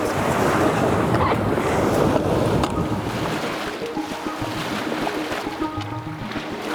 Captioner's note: waves crashing; gentle synth music continues